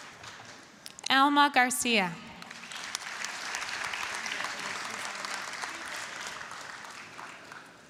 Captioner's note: applause, cheering; applause